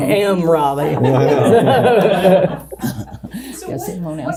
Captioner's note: all chuckling